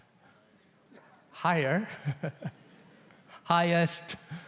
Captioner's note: laughs